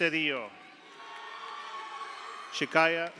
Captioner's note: audience cheers; audience applauds